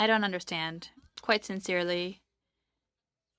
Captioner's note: speaking French